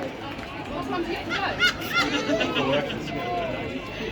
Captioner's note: laughter